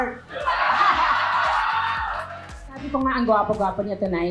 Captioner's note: laughs